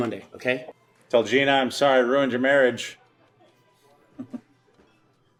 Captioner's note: chuckles